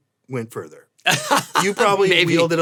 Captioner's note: Tony laughs